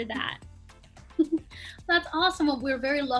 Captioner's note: laughs